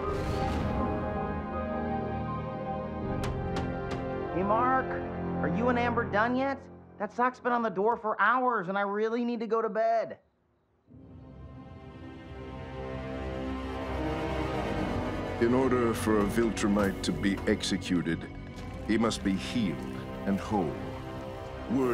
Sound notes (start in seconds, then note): 0.0 emotional music; 3.2 door knocking; 11.2 tense music